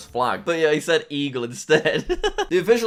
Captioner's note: laughs